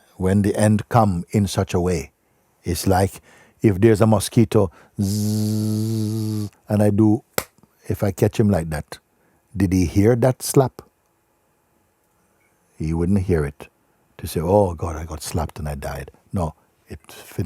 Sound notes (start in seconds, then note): 5.0 makes buzzing sound; 7.4 claps hands